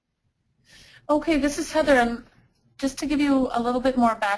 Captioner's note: voiceover